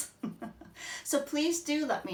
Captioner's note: laughs